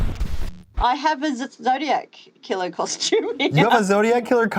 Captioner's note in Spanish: risas